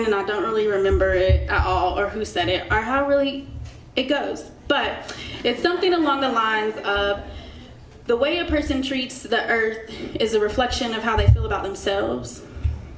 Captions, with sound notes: and I don't really remember it at all, or who said it, or how really it goes, but (crowd chuckles) it's something along the lines of, "The way a person treats the earth "is a reflection of how they feel about themselves."